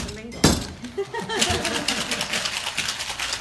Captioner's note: laughter; drink shaking